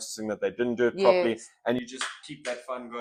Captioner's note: clap